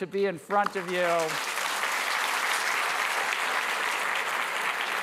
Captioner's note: applause